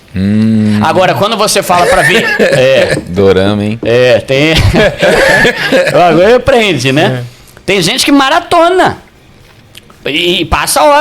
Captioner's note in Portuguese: risadas